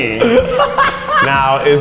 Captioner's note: laughs